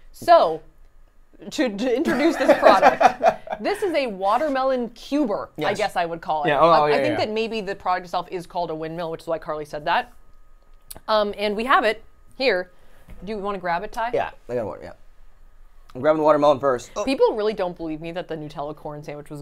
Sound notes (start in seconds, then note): 2.1 laughs